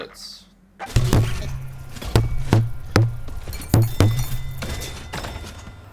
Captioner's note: awful thumping sound